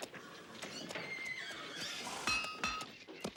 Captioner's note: horses whinny; hooves clopping; mallet clanging